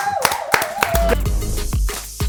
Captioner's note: applause